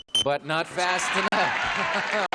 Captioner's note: beeps